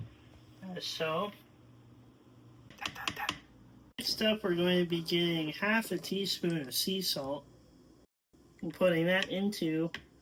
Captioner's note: tap, tap, tap